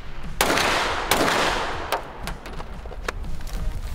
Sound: pistol gunshots; upbeat music

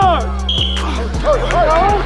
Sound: whistle

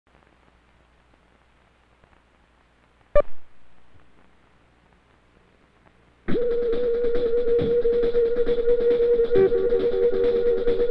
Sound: beep and music

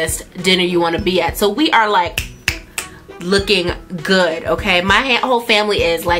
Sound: snap

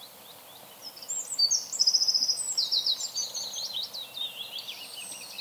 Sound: birdsong

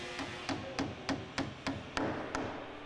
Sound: hammering

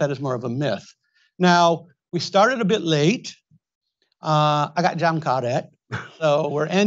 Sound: speaks Indonesian; Tom chuckles

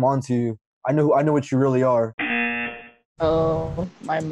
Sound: buzzer rings

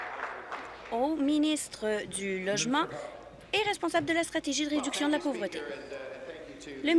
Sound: applause

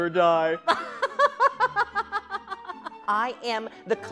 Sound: laughing

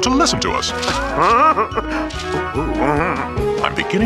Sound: chuckles

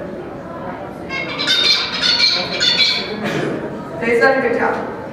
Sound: bird song

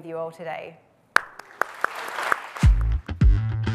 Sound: audience applauds; upbeat music

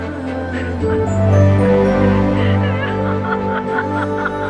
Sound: grandma weeping

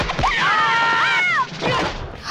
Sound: big noises

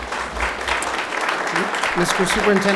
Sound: audience applause

